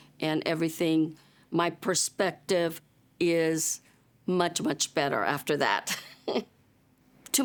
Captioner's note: chuckles